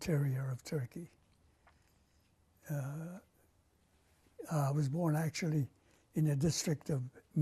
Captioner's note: pauses for 3 seconds